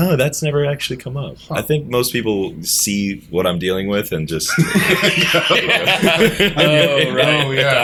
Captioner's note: laughter